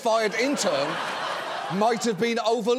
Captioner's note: audience laughing